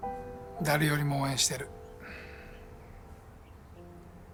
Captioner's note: speaks japanese